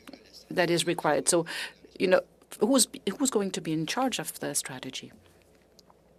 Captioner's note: speaking French